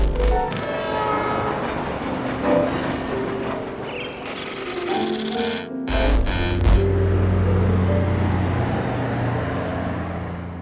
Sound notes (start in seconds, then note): 0.1 train running; 3.8 electric waves; 7.4 truck running